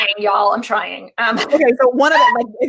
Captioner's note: laughing; laughs